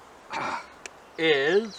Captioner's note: manly grunt